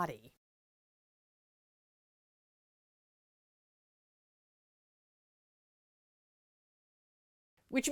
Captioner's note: no Sound Present